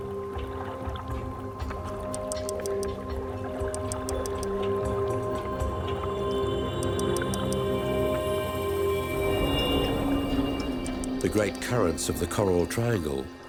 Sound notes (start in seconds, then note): 1.6 whale clicking